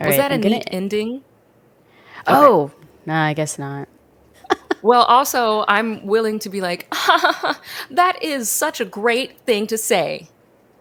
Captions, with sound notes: - Was that a minute ending? Oh, I guess not (laughs). - Well, also I'm willing to be like, (laughs) that is such a great thing to say.